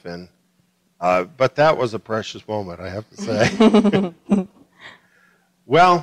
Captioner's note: laughter